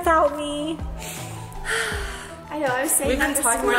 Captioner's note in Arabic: تنهد